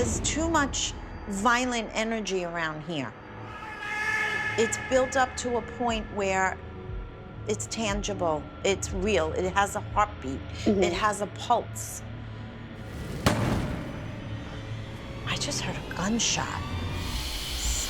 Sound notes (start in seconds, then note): 12.8 gunshot